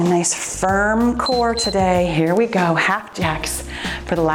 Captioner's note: timer beeps